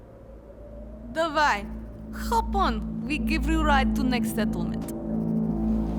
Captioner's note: russian